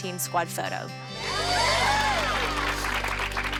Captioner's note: cheering